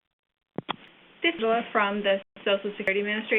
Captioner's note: audio skips